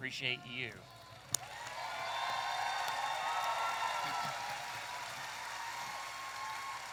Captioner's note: audience applauding and cheering